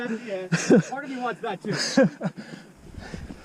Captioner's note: laughing